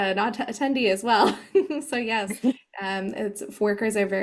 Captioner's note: chuckles